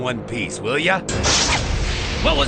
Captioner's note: crashing